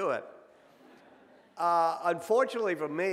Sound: audience laughs

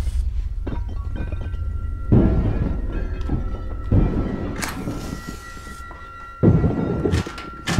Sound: smashing is much louder

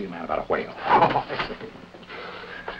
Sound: both chuckle

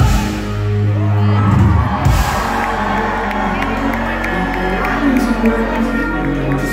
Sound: cheering

